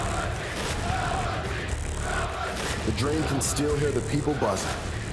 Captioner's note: fans chanting